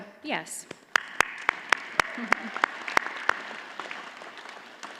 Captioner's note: audience applauds